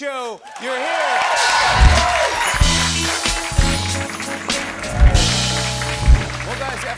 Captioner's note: cheers and applause